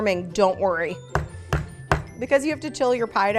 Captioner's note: banging